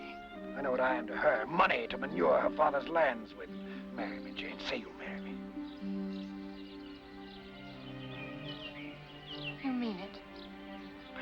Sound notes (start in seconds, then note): 6.8 birds chirping; 6.8 sentimental music